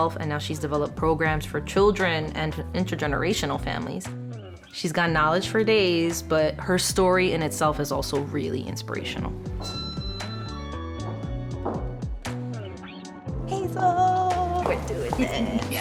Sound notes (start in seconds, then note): 9.6 lift chiming; 11.6 mellow music